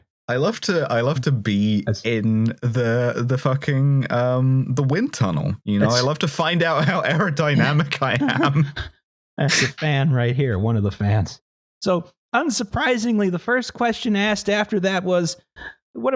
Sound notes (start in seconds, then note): 8.7 laughs